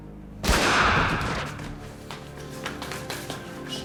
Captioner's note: gunshot